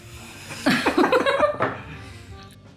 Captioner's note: laughter